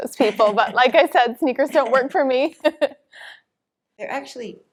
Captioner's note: laughs